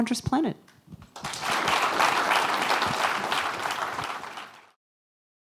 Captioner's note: applause